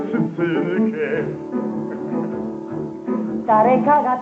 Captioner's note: hearty laugh